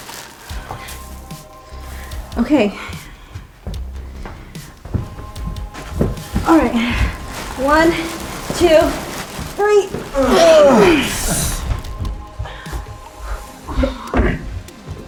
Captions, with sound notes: (gentle music continues) - Okay. - Okay. All right, one, two, three. (group grunting)